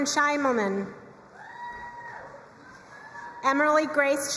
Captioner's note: crowd cheering and applauding